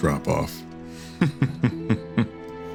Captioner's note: laugh